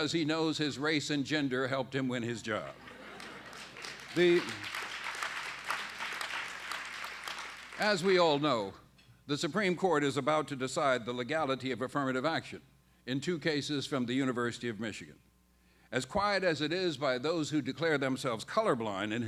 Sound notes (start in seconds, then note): 3.1 applause